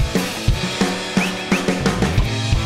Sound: whistling twice

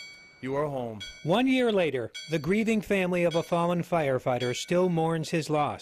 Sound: bell tolls

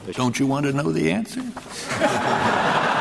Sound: laughter

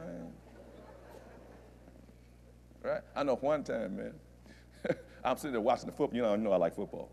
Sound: laughter

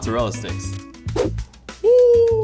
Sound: swooshing

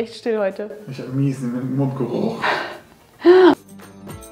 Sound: laughing

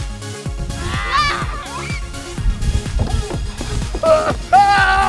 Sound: kids yelling and screaming

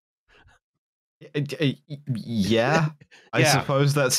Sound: stammers

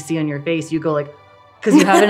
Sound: laughing

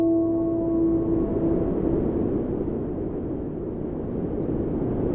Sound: wind blowing

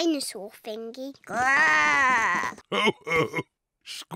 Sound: oinks; growls; chuckles

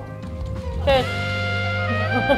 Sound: laughs; jazz music

